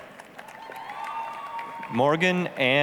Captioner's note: applause, cheering